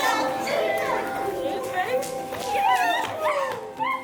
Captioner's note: children chattering